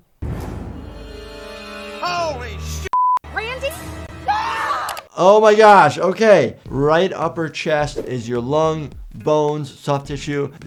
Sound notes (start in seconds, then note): 4.2 bystander screams